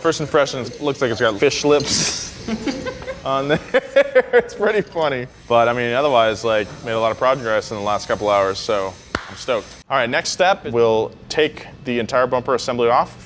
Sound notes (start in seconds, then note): 2.0 laughs